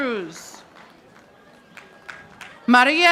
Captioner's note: audience applauding